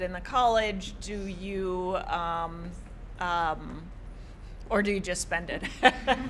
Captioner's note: laughter